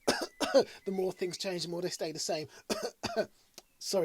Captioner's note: coughs; coughs